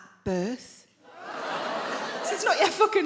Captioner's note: audience laughing